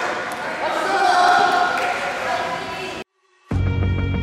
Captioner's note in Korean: 박수